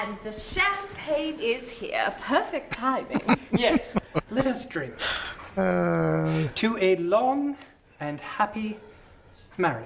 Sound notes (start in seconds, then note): 3.0 chuckling